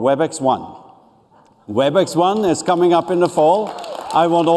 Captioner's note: applause